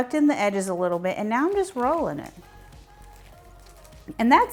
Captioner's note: leaves rustling